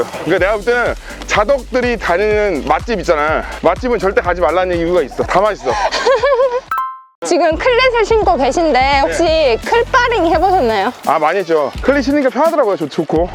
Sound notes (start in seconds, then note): 5.5 laughter